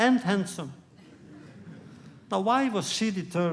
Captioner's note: laughter